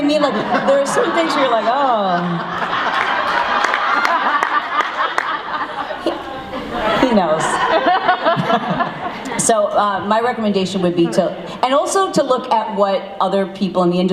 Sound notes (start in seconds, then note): 2.0 laughs; 2.5 audience clapping